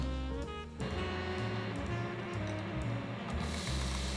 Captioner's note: burner humming; sizzling